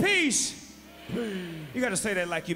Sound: crowd

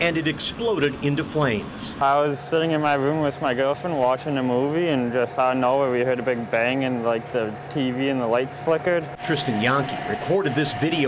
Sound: sireens

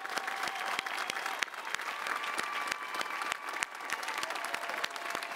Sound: audience applauding and cheering

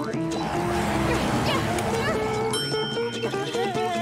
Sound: grunting

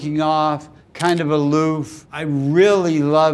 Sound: camera shutter clicking

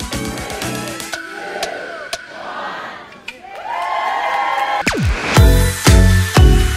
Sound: cheering

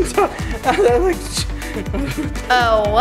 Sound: stammers

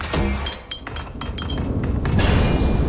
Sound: bomb landing; bomb exploding

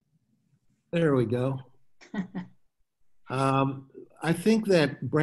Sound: chuckles

